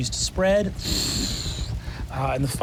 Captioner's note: imitates fire whoosh